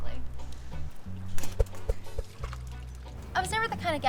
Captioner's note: air whooshes